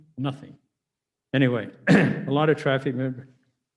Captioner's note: murmurs